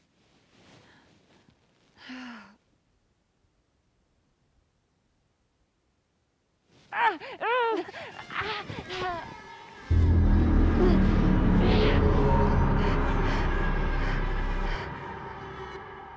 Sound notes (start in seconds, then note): 6.9 Brigit yelping; 7.1 dark tense music